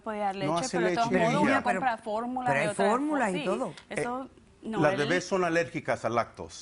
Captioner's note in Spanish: Hablan al unísono